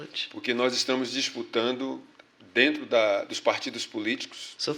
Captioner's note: speaking portuguese